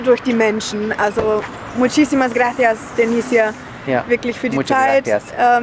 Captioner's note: in Spanish